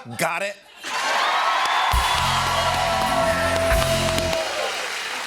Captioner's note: cheers and applause